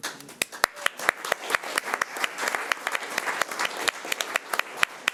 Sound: audience applauding

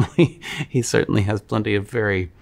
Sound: laughs

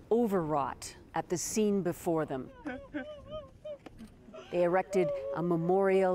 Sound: crying

